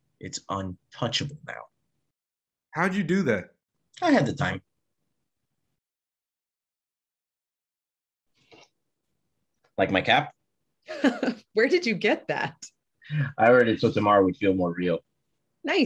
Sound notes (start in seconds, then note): 11.0 Glen chuckles